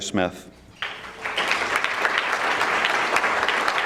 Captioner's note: audience clapping